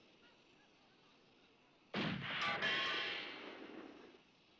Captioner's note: gun fires